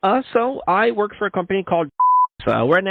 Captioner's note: beep